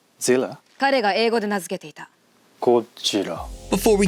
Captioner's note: japanese speech